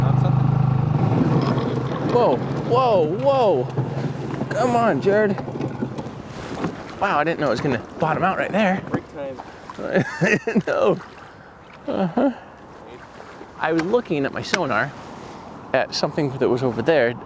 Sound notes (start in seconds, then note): 1.6 boat grinding; 9.7 laughs